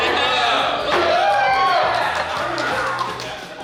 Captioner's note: cheering & Clapping